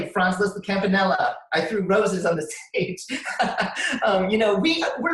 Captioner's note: laughs